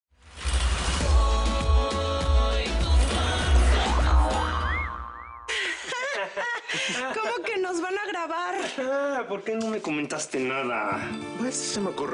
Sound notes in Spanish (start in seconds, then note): 5.5 Risas